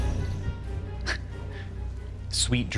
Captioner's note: snickers